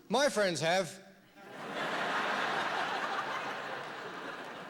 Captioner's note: laughter